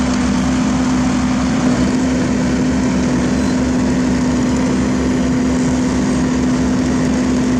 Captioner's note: engine Rumble